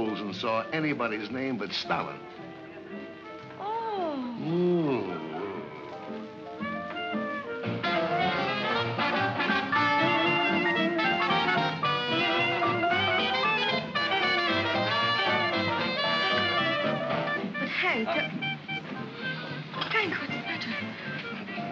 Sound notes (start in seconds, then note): 4.9 mocking tone; 7.9 jaunty music plays